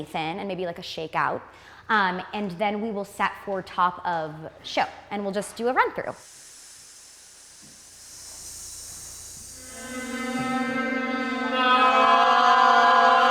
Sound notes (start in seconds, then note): 6.2 group breathing; 9.4 group humming